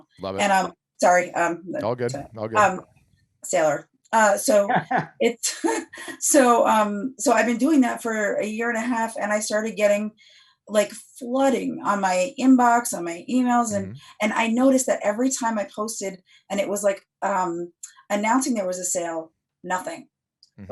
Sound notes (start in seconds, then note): 4.7 laughs